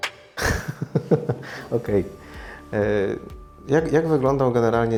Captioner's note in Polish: śmiech